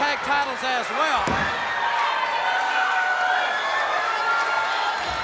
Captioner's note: crowd cheering